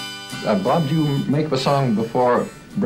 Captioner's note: voiceover